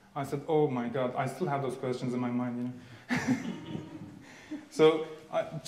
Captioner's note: laughing